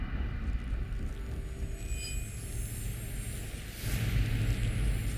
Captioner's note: high-pitching ringing